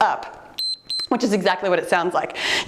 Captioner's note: timer beeps